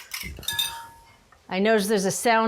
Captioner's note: glass clanging